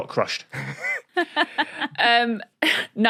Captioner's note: laughs; blurts wheeze